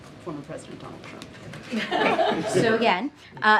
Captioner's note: laughter